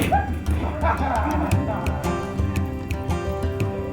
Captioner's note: laughing; popping noise